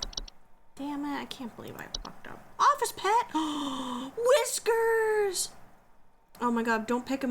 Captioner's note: delighted gasp